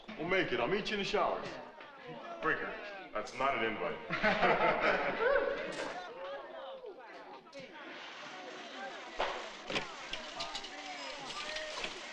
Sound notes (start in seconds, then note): 4.0 boys laughing; 7.1 locker room chattering